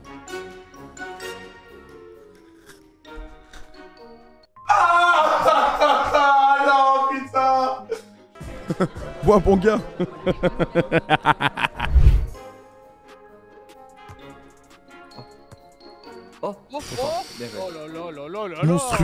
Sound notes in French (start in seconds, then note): 4.8 Rires; 9.7 rire mystérieux